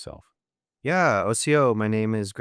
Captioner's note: speaking in foreign language